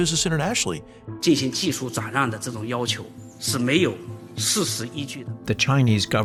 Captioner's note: speaking Mandarin